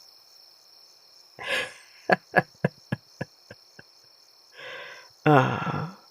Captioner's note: mocking laugh